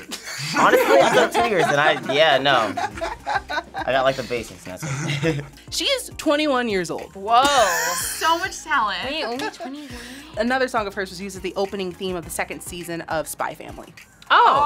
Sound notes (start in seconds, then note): 0.0 group laughs; 3.0 React laughs; 5.4 laughs